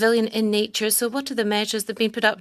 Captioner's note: speaking French